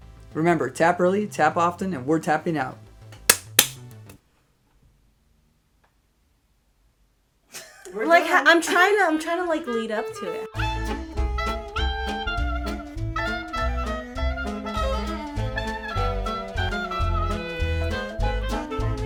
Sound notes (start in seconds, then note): 3.2 hands clapping; 7.5 laughter